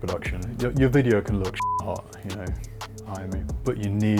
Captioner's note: beep